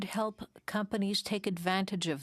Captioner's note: speaking French